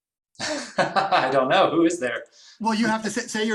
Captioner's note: laughs